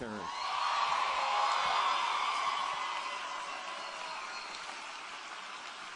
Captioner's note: applause